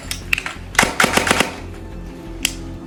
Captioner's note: airsoft gunfire